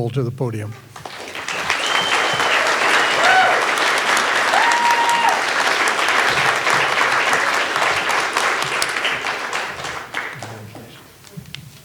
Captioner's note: all applauding